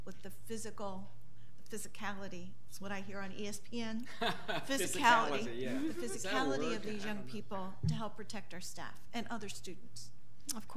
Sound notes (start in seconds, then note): 4.0 laughs